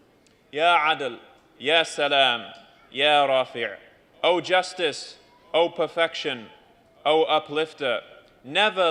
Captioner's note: non-english speech